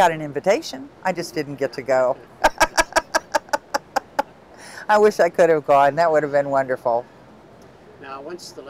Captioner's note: laughing